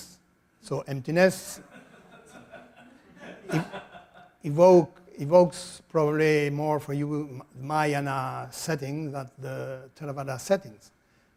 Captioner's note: audience laughter